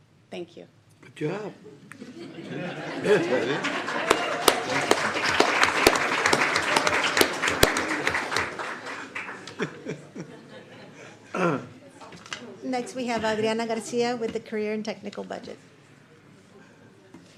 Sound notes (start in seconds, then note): 5.3 applause; 8.2 clears throat